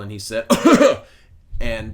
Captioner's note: coughs